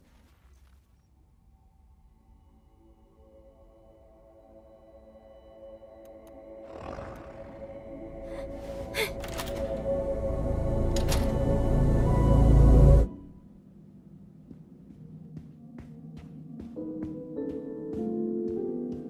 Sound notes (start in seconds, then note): 6.7 Kaufmo growls; 8.1 exclaims softly